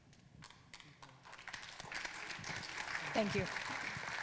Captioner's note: audience applauding